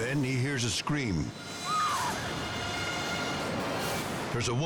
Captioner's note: driver screams